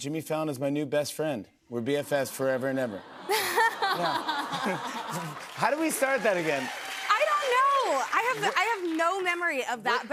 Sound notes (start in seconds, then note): 3.7 audience "Awws"